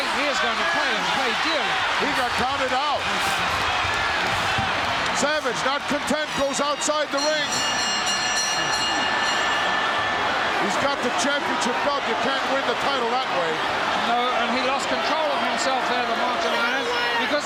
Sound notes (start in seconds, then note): 6.4 bell ringing